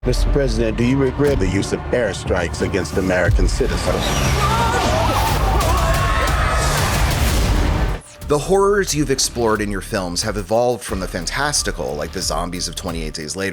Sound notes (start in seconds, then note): 4.3 yelling